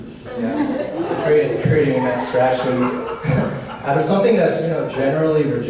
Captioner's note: audience laughs